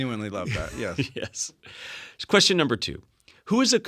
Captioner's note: laugh